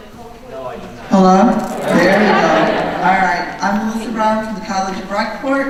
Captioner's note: voiceover